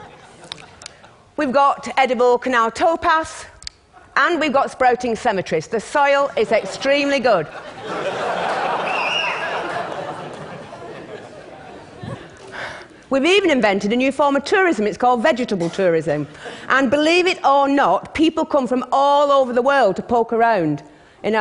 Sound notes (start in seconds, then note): 0.0 laughter; 7.4 laughter